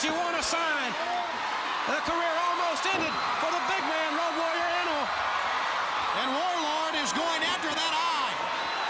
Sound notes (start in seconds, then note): 5.1 crowd cheering; 8.7 crowd cheering